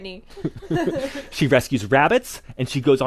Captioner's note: laughing